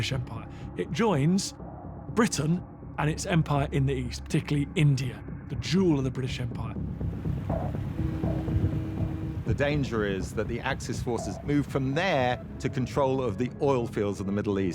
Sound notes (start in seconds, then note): 7.5 horn blares